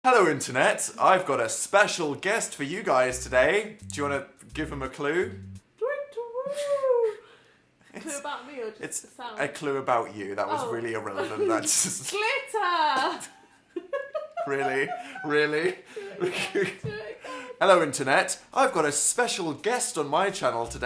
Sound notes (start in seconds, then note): 6.0 owl noise; 13.8 laughs